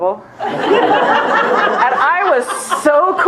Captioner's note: laughter